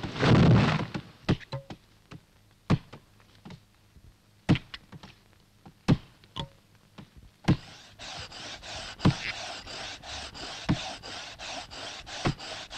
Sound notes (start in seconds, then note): 0.2 thud; 2.6 thump; 7.5 sawing